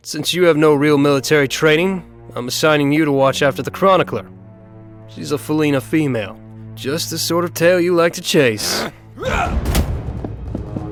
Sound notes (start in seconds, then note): 8.5 angry Noises